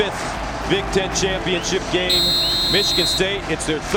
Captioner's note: whistle blows